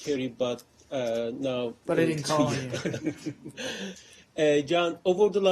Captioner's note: laughter